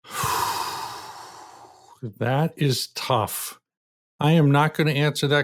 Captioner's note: sighs